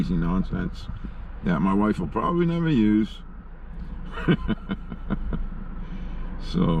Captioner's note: laughing